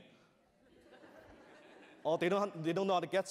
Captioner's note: laughter